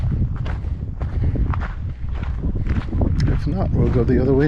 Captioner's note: wind blowing